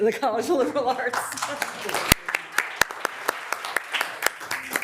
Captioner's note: members applauding